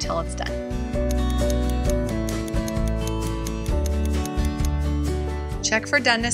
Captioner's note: upbeat music; clock ticking